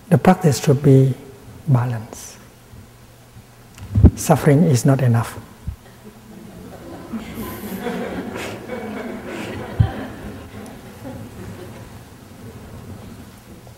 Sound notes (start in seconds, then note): 5.8 laughter